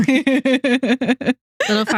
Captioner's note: both Laughing